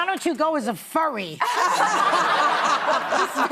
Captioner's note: laughter